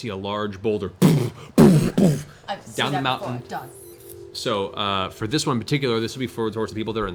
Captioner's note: booming sounds